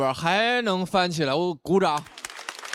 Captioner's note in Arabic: تصفيق